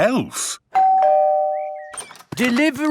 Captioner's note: door bell ringing